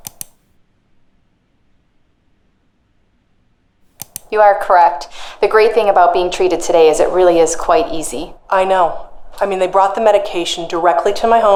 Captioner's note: mouse click of video editor